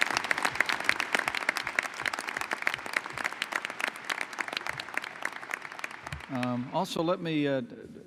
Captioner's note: applause